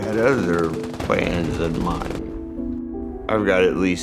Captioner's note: gunshots firing